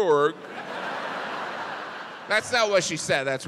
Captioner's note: audience laughs